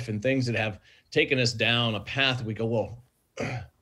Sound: clears throat

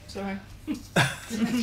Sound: laughter

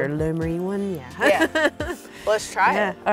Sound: laughs

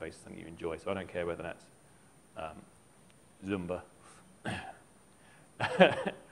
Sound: laughs

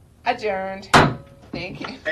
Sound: gavel bangs

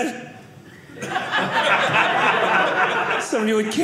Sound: audience laughing

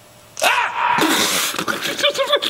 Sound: spit; laughing

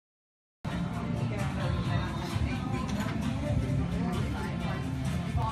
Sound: cafe chatter and background music

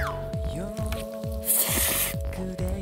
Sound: slurping

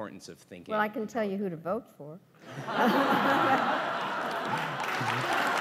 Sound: laughs

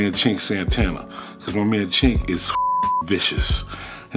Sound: beep

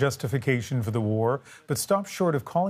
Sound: speaking Foreign Language

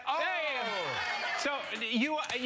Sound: cheering

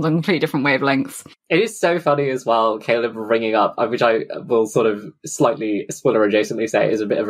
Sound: laughing

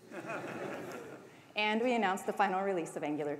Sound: laughter

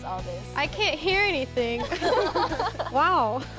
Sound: laughter

